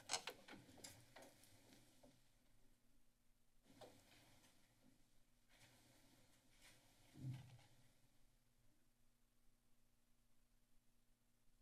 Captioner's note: silence